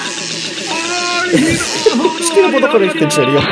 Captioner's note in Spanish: risitas